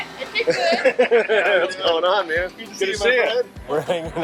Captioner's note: laughing